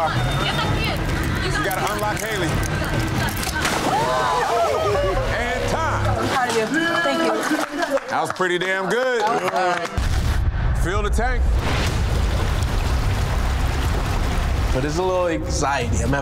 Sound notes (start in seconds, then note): 4.3 water splashing; 7.2 hands clapping; 10.4 dramatic music; 11.6 water gurgling